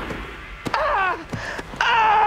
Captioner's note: groaning in pain